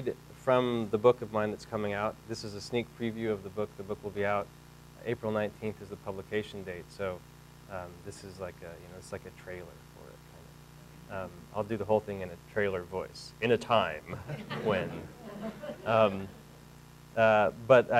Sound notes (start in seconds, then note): 13.6 deep voice; 14.1 audience laughing